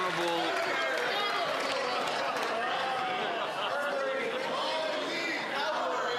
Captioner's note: some Applause